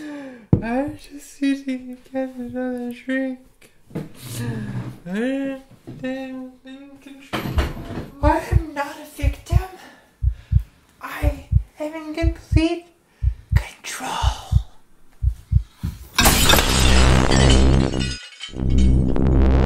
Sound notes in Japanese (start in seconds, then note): 4.9 酔っぱらってしゃべっている; 9.2 心臓の鼓動; 16.2 ガラスの砕ける音